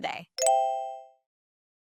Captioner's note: graphic blips